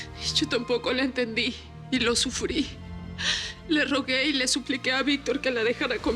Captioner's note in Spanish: sollozos